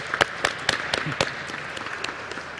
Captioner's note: applause